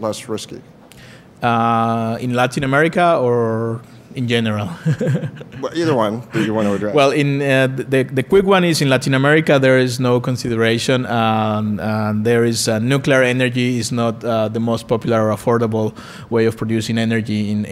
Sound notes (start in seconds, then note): 4.7 laughs